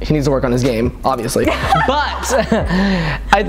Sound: laughs

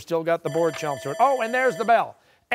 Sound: bell dings

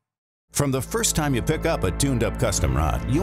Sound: voiceover

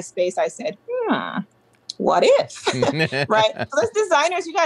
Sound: laughs

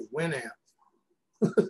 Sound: laughs

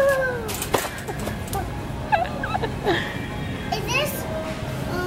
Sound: laughs

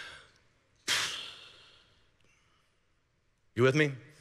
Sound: sighing

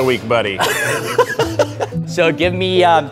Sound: laughing

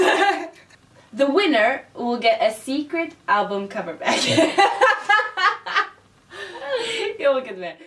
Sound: laughing

